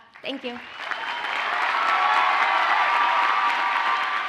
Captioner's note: audience cheers and applauds